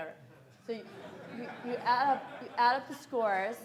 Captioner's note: audience laughs